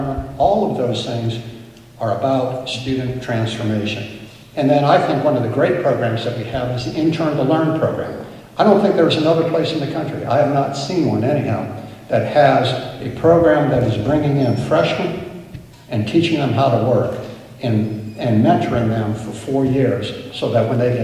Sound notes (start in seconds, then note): none